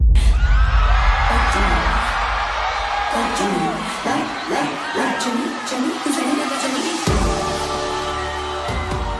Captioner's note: cheering